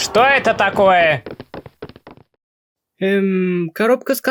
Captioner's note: steps